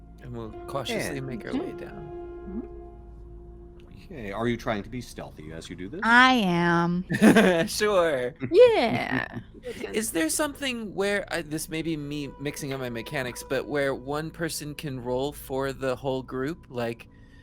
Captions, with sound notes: - And we'll cautiously make our way down. - Mm-hmm. - Okay, are you trying to be stealthy as you do this? - I am. - (laughs) Sure. - Yeah. (Game Master chuckles) - Is there something where, this maybe me mixing on my mechanics, but where one person can roll for the whole group like,